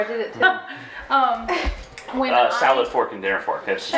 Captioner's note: laughs